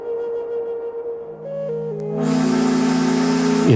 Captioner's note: steamboat whistle